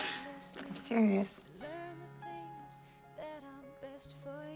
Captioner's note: laughs